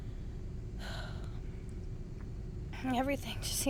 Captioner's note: sighs